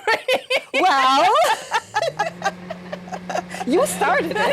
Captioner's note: laughing; microwave humming